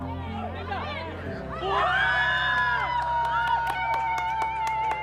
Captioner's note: girls screaming and cheering